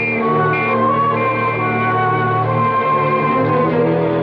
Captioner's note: whistling